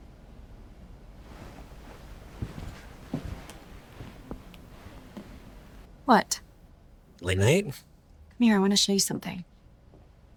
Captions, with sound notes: (feet shuffling) - What? - Late night. - Come here, I wanna show you something.